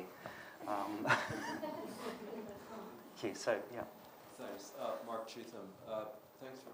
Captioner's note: laughter